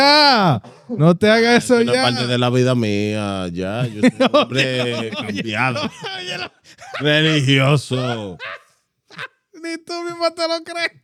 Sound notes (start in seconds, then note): 0.0 laughter; 0.0 speaking Spanish; 6.0 laughter; 6.0 speaking Spanish